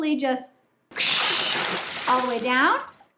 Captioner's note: water gushing